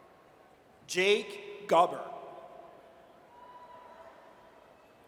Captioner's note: audience cheers